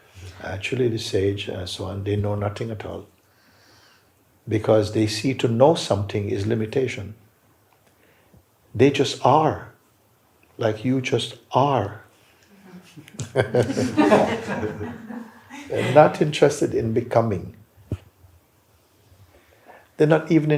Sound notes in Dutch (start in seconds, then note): 12.6 gelach